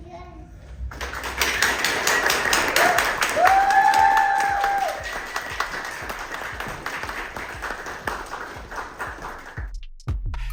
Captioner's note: applause